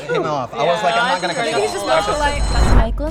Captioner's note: crowd speaks; bell goes off